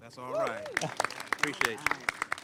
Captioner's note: applause